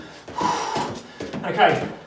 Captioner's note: exhales sharply